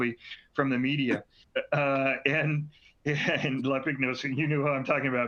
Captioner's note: laughter